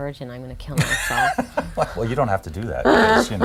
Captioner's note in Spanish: Laughs